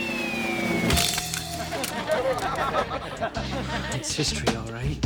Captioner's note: laughing